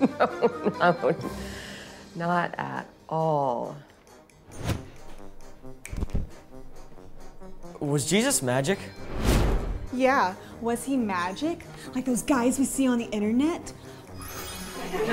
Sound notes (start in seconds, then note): 5.8 snaps; 14.6 class laughs